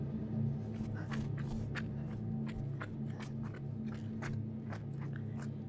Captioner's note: footsteps approaching